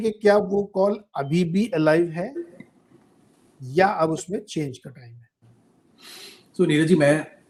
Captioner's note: nasal voice